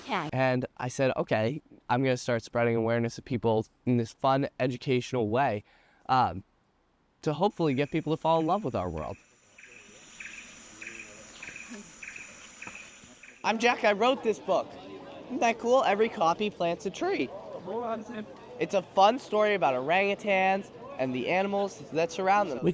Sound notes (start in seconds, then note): 9.3 exotic birds sing; 17.2 faint chatter